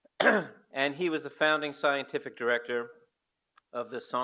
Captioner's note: clears throat; foreign language